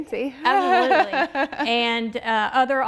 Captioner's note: laughing